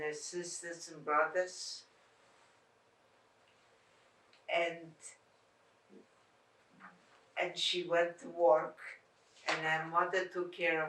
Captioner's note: pauses 6 seconds